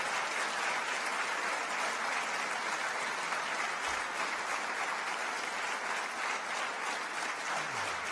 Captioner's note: applause